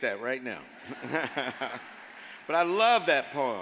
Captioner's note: all laugh